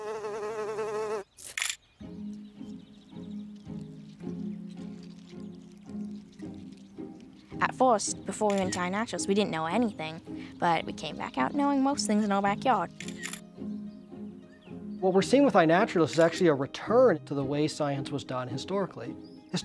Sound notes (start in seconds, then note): 1.4 shutter clicks; 12.9 shutter clicks